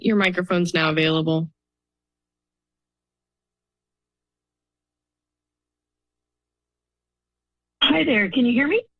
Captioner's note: silence